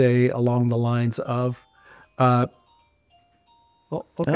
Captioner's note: Une sonnerie retentit